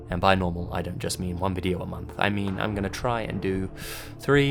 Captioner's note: breath intake